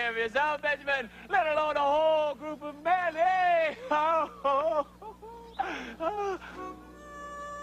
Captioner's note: laughs; sad music